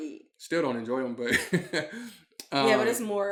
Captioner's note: chuckles